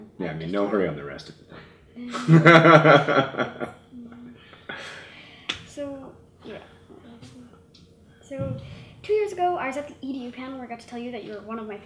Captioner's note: laughs